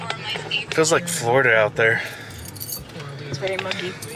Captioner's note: woman talks on radio; pants